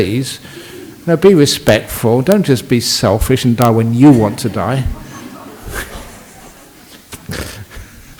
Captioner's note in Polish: śmiech